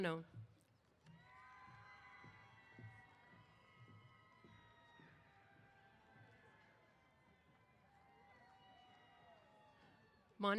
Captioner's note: cheers